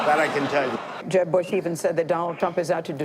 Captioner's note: laughing